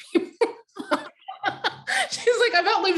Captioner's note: laughing